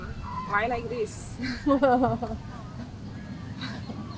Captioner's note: laughing